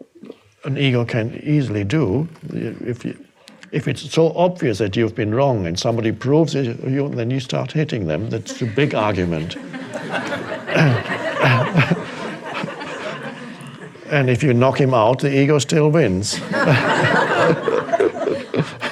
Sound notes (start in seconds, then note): 10.2 audience laughing; 16.3 audience laughing; 18.6 Eckhart laughs